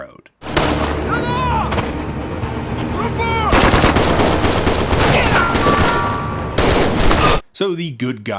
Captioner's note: gunfire and indistict yelling